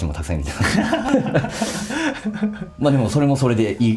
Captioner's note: laughs